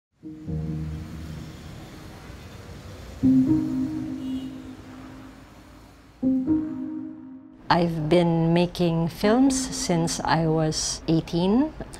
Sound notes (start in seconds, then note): 1.6 soft traffic noises